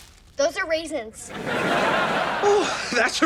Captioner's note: laughs